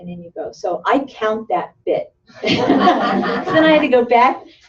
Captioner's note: laughter